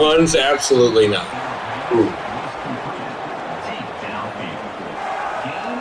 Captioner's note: crowd Noises